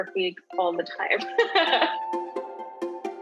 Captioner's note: laughs; lighthearted music continues